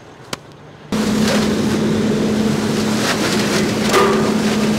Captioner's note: leaves being vacuumed